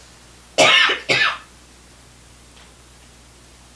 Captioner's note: coughing